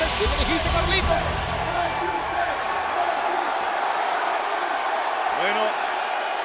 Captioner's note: applause